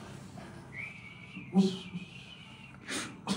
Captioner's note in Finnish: viheltää